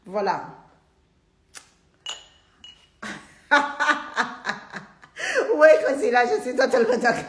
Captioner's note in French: Rires